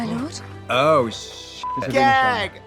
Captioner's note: beep